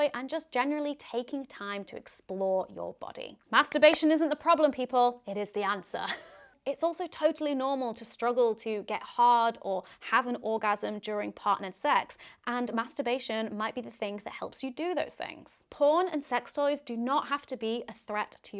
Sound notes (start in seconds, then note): 3.8 hands clapping; 6.0 chuckling